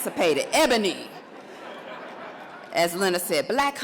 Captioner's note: audience laughs